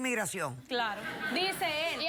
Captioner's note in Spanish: risas